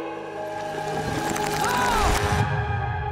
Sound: shrieking

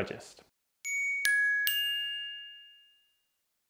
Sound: tinkling

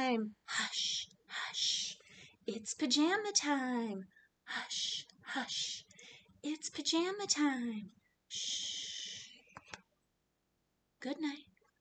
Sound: shhhhhh

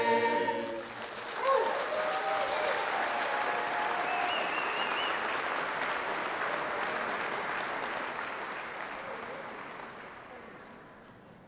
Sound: applause

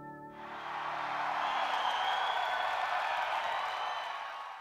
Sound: audience cheering

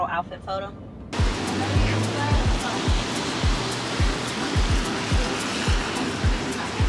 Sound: chill techno music; rain pouring

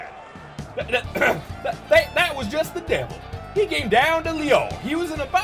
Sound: clears throat to regain southern accent

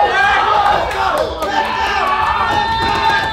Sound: group cheering; banging

